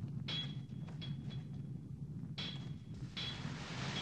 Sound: banging

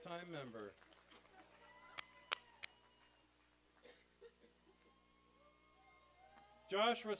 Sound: applause

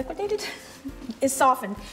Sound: giggles

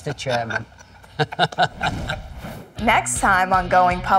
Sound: both laughing

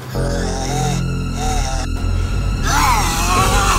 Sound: Adriel growls

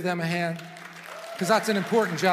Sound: congregation applauds

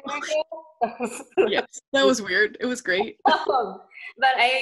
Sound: laughs

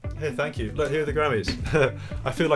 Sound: laughs

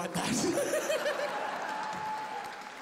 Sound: laughs

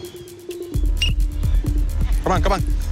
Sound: whistle blasts

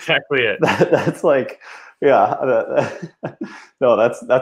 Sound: laughs

